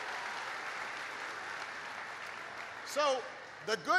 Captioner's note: applause